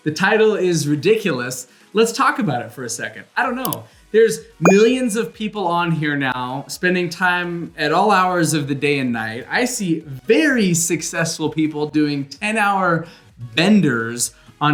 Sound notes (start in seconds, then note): 3.0 bell ringing; 3.0 mouse clicking